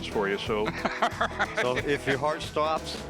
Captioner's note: laughs